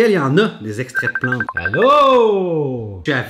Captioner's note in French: sonnerie